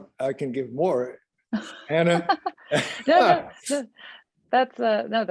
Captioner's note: group laughs